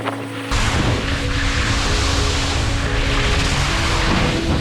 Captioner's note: skis scraping